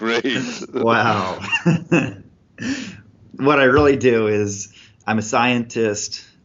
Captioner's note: laughs